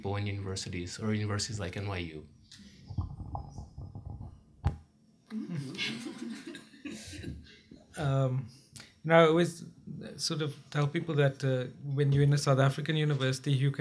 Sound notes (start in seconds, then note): 5.3 laughing ensues